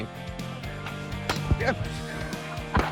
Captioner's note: yelps; laughs; mortar pops